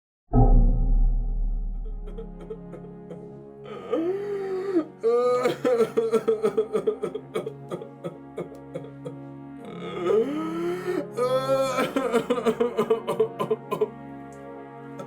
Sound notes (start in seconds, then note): 3.5 crying